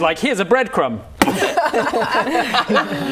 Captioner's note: boom